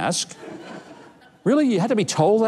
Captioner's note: audience laughs